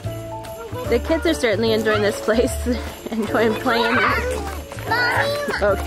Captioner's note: kids playing